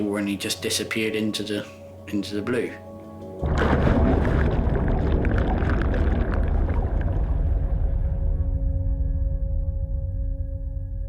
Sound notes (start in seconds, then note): 3.4 sea bubbles